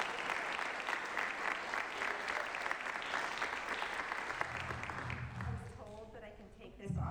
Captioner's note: applause